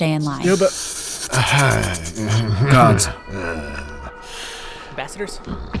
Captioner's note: laughing uncomfortably, alien chittering